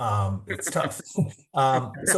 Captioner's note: laughter